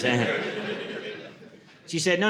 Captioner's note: audience laughing